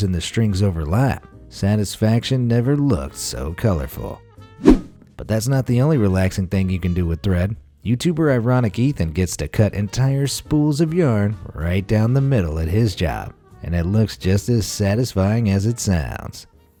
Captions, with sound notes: in the strings overlap. Satisfaction never looked so colorful. (whoosh) But that's not the only relaxing thing you can do with thread. YouTuber Ironic Ethan gets to cut entire spools of yarn right down the middle at his job. And it looks just as satisfying as it sounds.